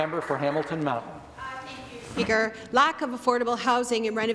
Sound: some Applause

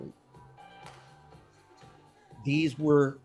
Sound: clap

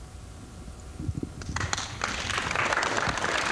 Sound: applause

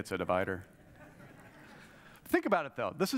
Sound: audience laughs

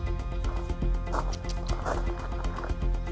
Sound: tongue clicks

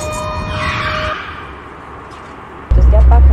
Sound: car zooms away

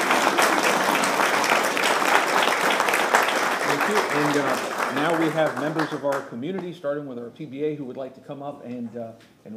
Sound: applause

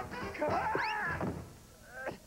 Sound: thud

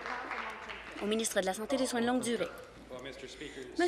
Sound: applause

